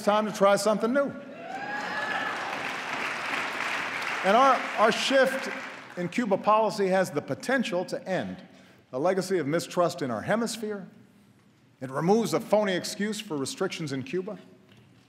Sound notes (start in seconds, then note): 4.5 applause